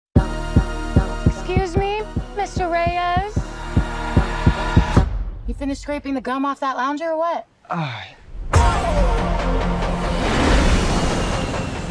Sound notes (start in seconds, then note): 7.6 sighs; 10.2 roaring